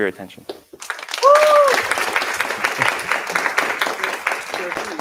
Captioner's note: applause